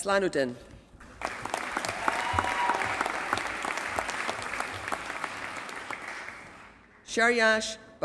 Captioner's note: applause